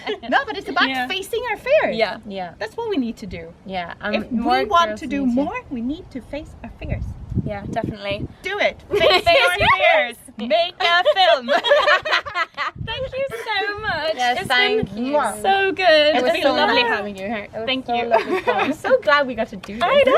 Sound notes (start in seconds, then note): 10.9 laughter